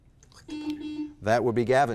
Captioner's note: buzzer blaring